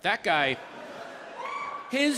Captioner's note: audience laughing